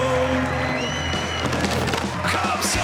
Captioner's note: cheering